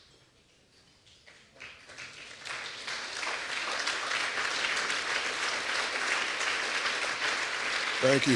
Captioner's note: applause